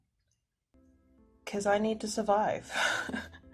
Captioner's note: laughs